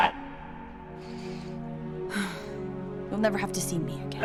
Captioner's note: inhales & exhales in resignation